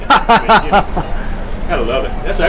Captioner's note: laughter